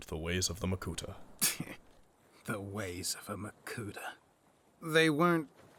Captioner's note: scoffs